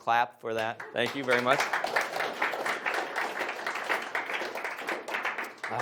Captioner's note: audience applauds